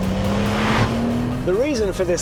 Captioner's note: engine revs